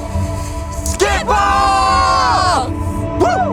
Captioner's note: crowd shouting